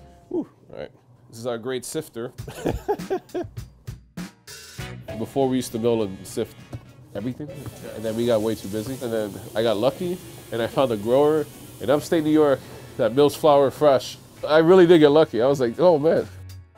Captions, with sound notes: Woo, right. This is our great sifter. (laughs) Before we used to be able to sift everything. But then we got way too busy. And then I got lucky and I found a grower in upstate New York that mills flour fresh. I really did get lucky, I was like, "Oh man!"